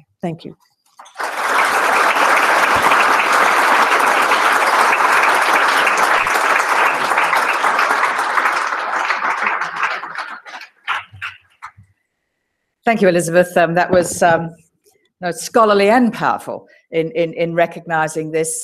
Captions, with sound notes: Thank you. >> [APPLAUSE] >> Thank you Elizabeth. That was scholarly and powerful in recognizing this